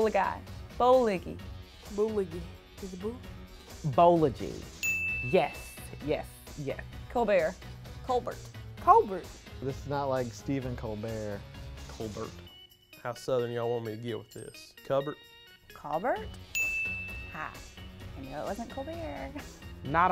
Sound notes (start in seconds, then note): 4.8 bell chimes; 16.4 bell chimes